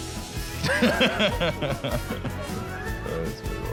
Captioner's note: laughing